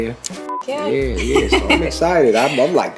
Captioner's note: beep; laughs